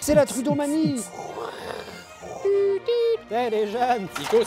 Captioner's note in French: bruits de bouche